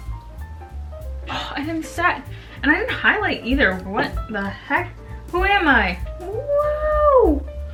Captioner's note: ughh